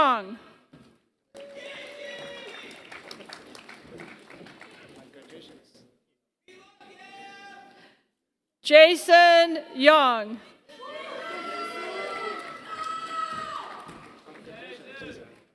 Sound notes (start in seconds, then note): 0.0 applause; 12.0 applause